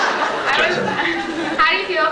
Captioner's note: laughs